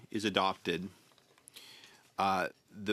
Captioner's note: speaking in French